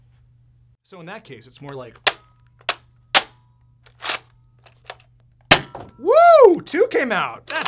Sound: bang

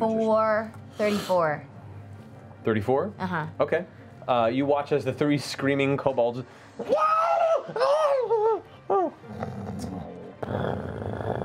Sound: screaming, snoring

